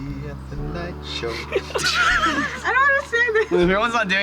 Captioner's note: laughing